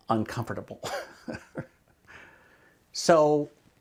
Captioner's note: giggles